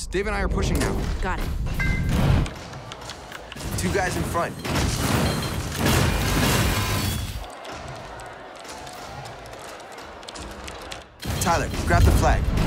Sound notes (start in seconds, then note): 4.8 guns firing; 7.4 keyboard clicking